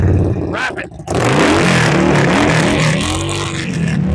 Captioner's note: loud revving engine